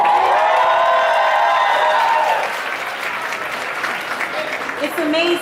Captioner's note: audience applauds